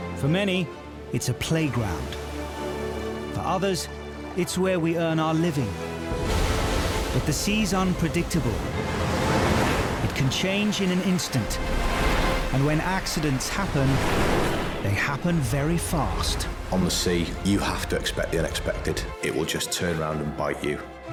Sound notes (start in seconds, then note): 6.2 waves crashing; 9.0 boat engine revving